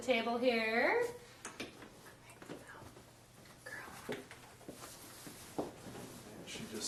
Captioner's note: whispering to the dog